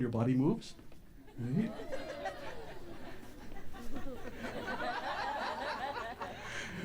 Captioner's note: audience enjoyment and laughter